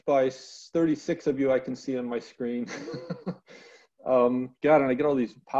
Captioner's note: chuckling